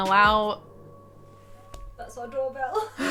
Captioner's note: wolf howling